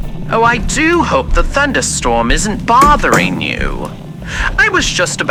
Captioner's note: Alastor closes door fx